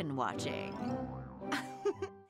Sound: Camilla chuckes

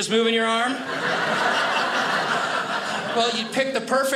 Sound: audience laughing

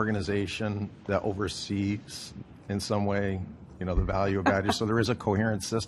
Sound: laughter

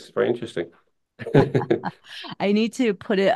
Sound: laughs

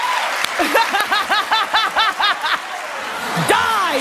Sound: laughs

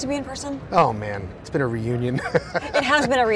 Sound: laughs

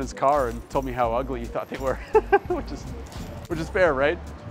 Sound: chuckles

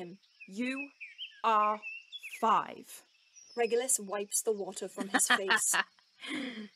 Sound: James laughs

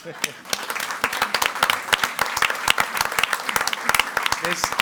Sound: audience applauding

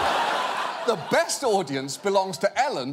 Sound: audience laughing

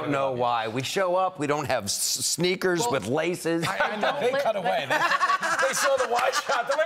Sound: laughter

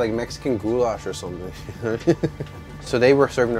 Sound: chuckling

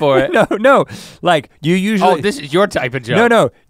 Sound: chuckles

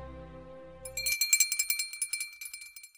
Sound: subscription bell tinkles

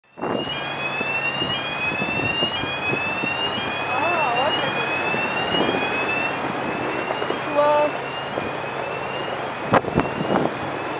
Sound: alarm Sound

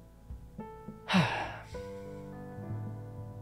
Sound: exhale

